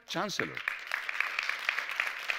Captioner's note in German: Applaus